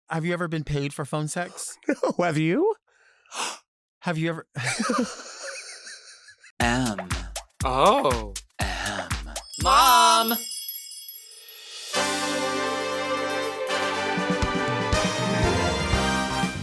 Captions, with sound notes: - Have you ever been paid for phone sex? - No, have you? - Have you ever... (host and guest laugh) M- 0- M, MOM! - MOM! (glittery chimes) (upbeat music)